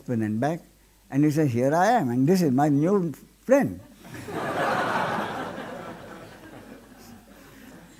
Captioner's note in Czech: smích